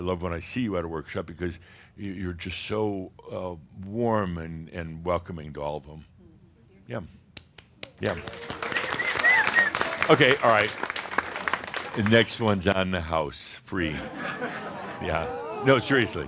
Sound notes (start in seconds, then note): 8.0 audience applause; 13.9 some chuckles